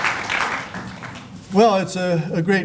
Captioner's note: applause